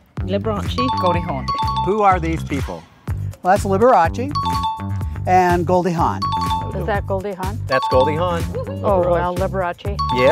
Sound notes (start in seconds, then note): 0.8 bell ding; 4.3 bell ding; 6.1 bell ding